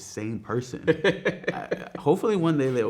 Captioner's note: man laughing